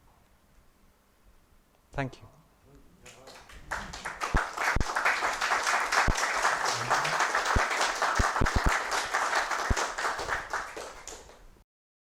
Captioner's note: applause